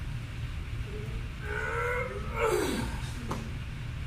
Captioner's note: grunting